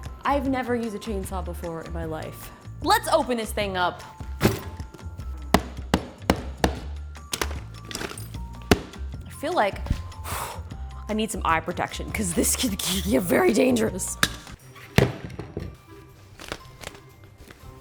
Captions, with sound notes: I've never used a chainsaw before in my life. Let's open this thing up. (tools thudding) I feel like I need some eye protection, 'cause this could get very dangerous. (playful music)